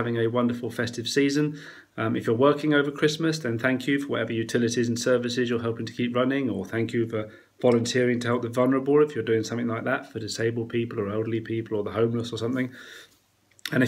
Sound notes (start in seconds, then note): none